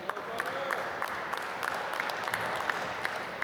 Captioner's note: applause